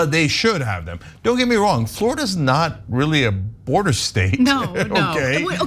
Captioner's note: laugh